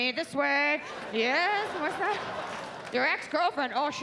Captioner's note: audience laughs